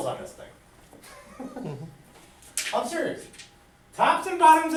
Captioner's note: laughs